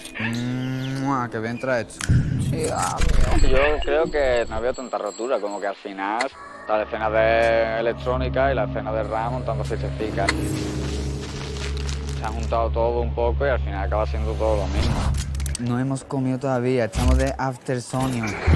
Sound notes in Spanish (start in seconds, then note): 4.0 voz en off; 12.2 voz en off